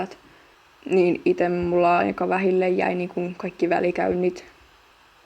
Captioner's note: walking